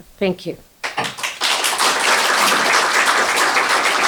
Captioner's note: applause